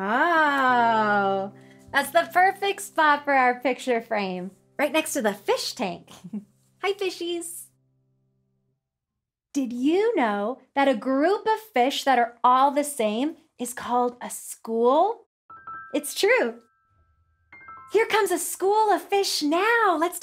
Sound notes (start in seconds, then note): 6.2 giggles